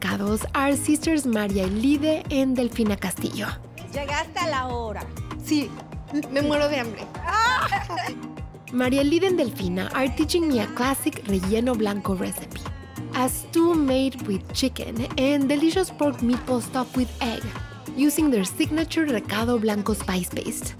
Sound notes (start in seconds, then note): 3.5 speaking Spanish; 7.2 laughter